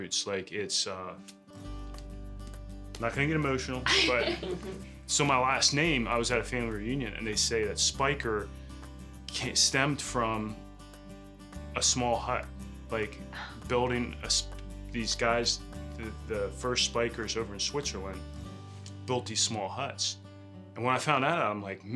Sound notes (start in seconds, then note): 3.8 laughing